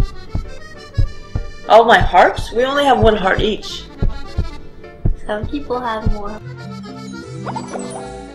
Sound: heart beating sound

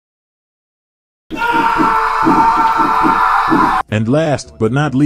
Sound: screams of pain

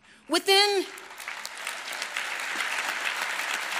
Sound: applause

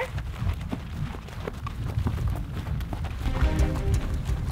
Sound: footsteps

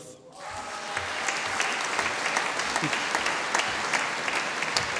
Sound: audience applauding

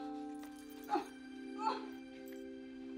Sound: groaning

